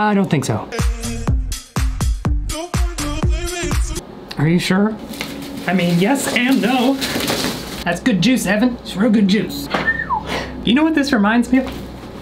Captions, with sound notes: I don't think so. (upbeat music) Are you sure? I mean, yes and no. (soda spewing) That's good juice, Evan! That's real good juice. (whistles) You know what this reminds me of?